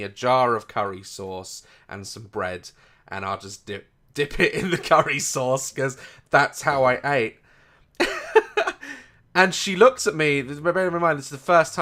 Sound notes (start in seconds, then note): 8.0 embarassed laughter